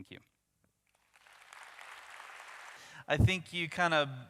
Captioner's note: audience applauds